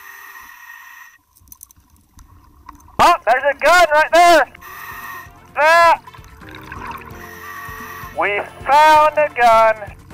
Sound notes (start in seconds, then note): 4.5 deep breathing; 4.9 lively upbeat music; 7.0 deep breathing